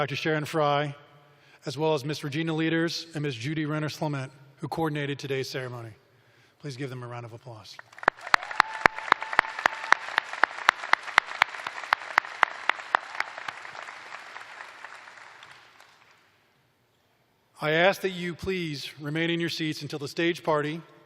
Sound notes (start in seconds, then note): 7.8 applause